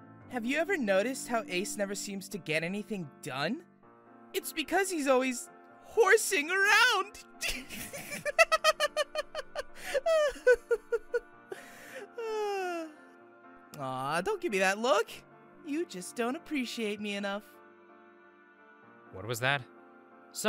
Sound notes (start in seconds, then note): 7.4 laughter